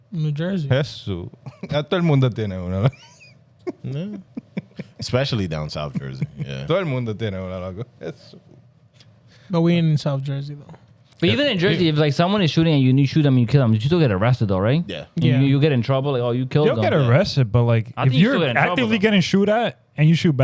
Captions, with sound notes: New Jersey. (Speaking Foreign Language) Especially down South Jersey. (Speaking Foreign Language) Are we in South Jersey though? But even in Jersey, if like someone is shooting and you shoot them, you kill them, you still get arrested though, right? You get in trouble, you kill them. You don't get arrested, but like, you're actively getting shoot at and you shoot